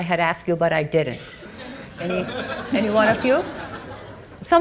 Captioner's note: audience laughing